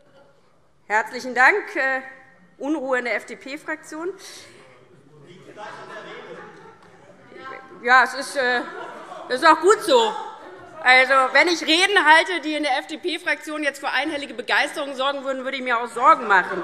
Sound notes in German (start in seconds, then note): 8.2 Lachen und Zurufe Freie Demokraten; 16.4 Heiterkeit und Beifall DIE LINKE, vereinzelt CDU und SPD